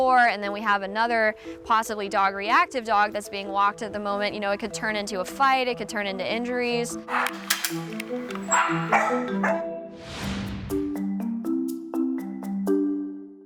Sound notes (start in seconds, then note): 7.0 dramatic music; 8.2 dog barking; 10.8 bright music